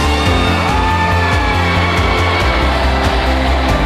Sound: applause

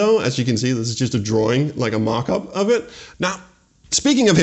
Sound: none

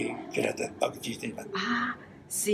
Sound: foreign language

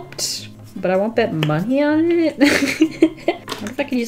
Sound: laughs

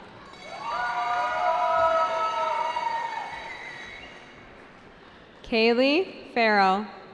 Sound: cheering

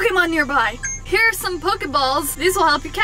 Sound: beep

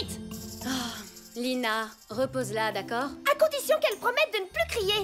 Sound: sighs

